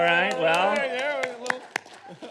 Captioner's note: audience applauding